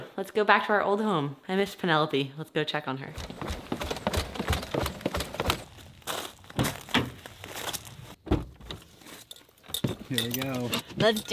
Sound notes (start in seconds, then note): 3.1 feet pounding on stairs; 3.1 gravel crunching; 8.2 car doors clunking